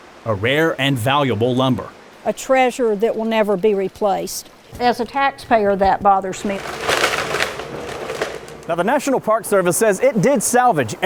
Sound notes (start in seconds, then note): 5.5 wood crunching